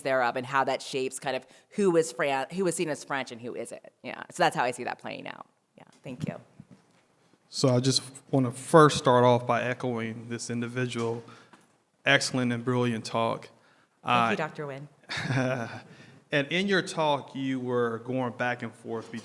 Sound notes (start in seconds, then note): 15.0 laughter